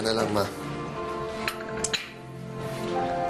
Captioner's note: coffee cup clinks